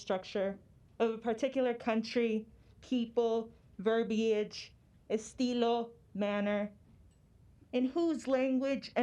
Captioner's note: spanish